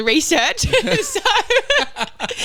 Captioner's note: laughing